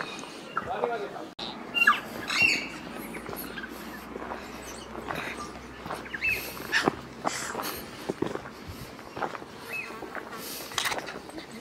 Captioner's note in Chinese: Tui的叫聲